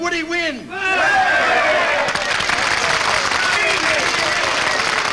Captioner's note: people cheer